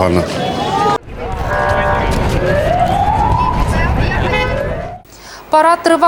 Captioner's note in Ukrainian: сирена